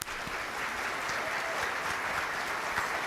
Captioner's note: applause